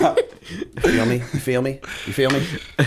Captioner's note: laughter